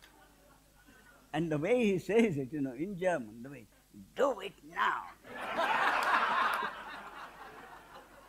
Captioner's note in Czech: smích